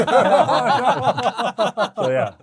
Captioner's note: laughing